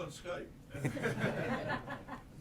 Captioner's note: laughter